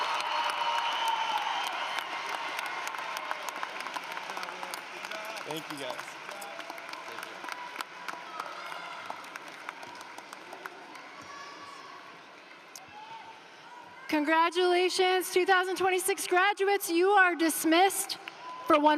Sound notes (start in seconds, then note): 3.2 applause